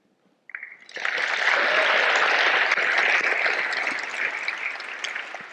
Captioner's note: audience applauding